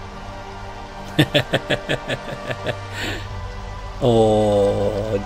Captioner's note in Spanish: Risas